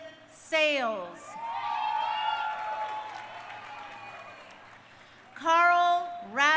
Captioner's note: crowd cheering